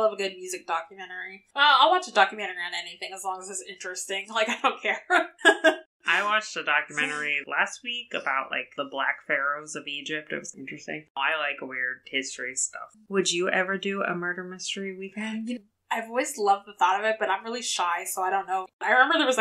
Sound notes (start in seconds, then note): 6.8 laughs